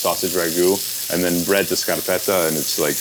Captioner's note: speaks Italian